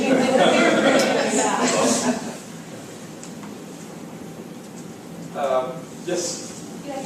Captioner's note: laugh